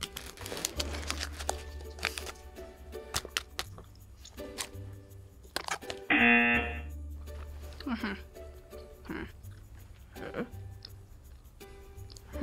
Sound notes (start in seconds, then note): 0.0 wrapper crinkles; 6.1 buzzer rings